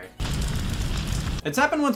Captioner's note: fire blazing